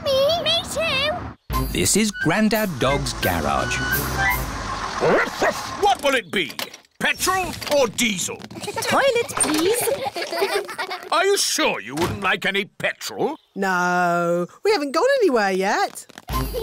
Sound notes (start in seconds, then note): 8.4 kids giggling; 16.4 laughter